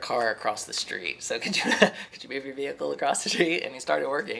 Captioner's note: laughs